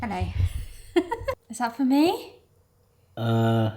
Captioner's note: laughing